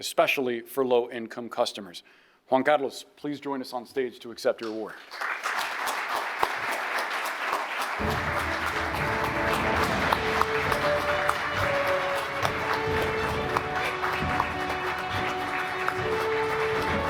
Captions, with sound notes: especially for low income customers." Juan Carlos, please join us on stage to accept your award. (audience applauding) (bright music)